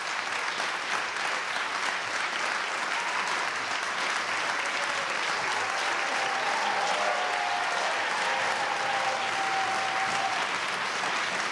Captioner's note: applause